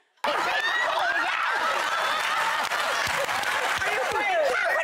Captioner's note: laughter